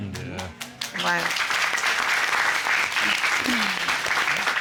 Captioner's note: applause